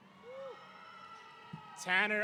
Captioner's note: audience cheering